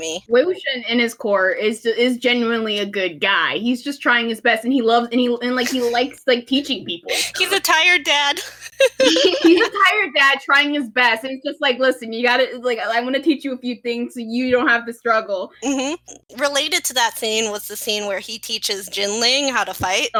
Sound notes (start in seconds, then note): 1.7 heh; 8.4 laughter